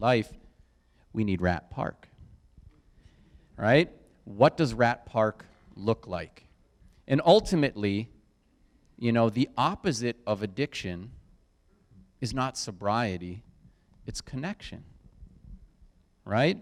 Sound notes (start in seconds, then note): none